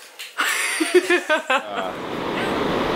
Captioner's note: laughter